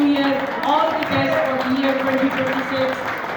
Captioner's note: applause; applause, cheering